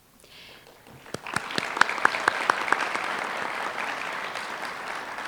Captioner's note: applause